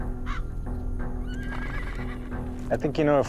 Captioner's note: horse whinnies